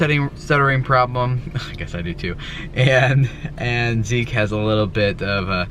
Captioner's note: laughs